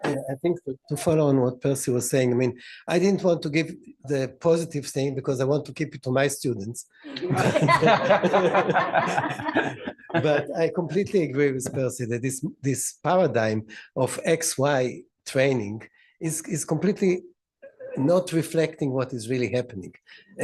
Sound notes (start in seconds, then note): 7.2 laughter